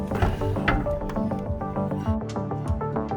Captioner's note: diff clanks; upbeat music continues